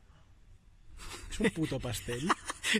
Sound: laughs

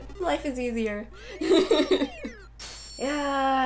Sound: laughter

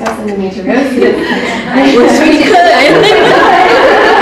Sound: women laugh

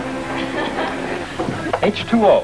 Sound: woman laughs

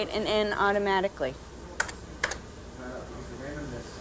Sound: keyboard clicks

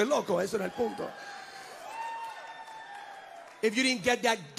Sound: congregants cheering

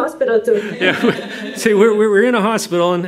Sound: laughter

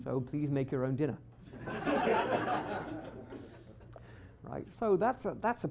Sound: laughter

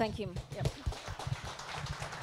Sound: audience applause

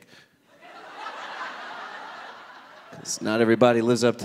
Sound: audience laughing

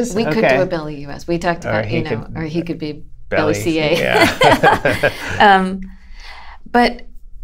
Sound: laughter

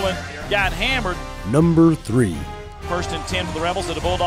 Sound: voiceover

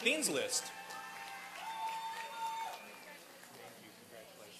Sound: applause and cheering

